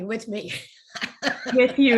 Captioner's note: laughing